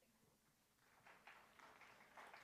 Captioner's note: applause